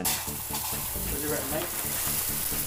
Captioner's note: shower hissing